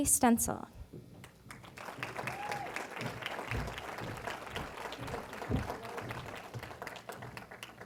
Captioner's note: applause